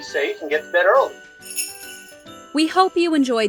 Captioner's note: bells jingling